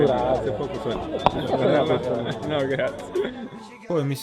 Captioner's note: laught